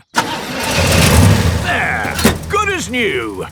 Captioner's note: engine starts